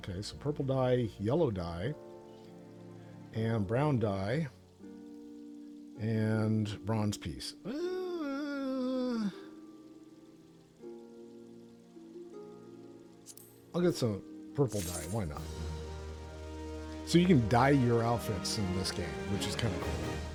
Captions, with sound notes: Okay, so purple dye, yellow dye, and brown dye, and bronze piece. (groans) I'll get some purple dye, why not? So you can dye your outfits in this game, which is kind of cool.